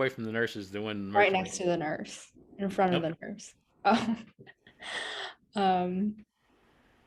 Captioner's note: laugh